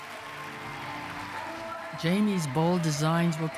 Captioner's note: audience applauding